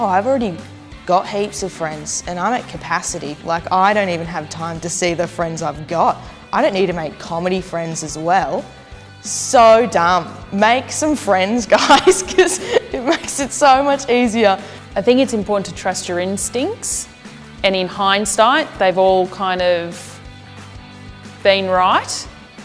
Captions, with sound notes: I've already got heaps of friends and I'm at capacity. Like, I don't even have time to see the friends I've got. I don't need to make comedy friends as well. So dumb! Make some friends, guys. (laughs) 'Cause it makes it so much easier. - I think it's important to trust your instincts. And in hindisight, they've all kind of been right.